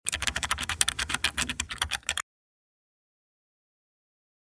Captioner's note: keyboard clicking